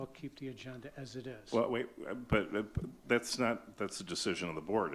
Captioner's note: stammering